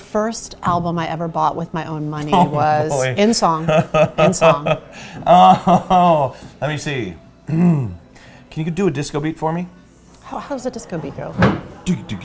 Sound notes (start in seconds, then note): 3.4 laughs